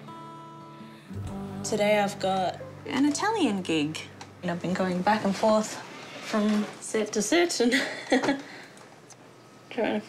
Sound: laughs

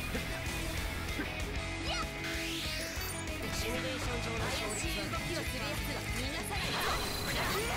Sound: rock music; game sound effects

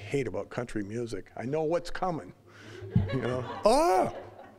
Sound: audience laughing

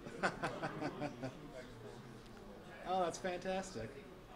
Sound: laughs

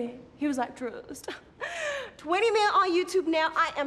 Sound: chuckles

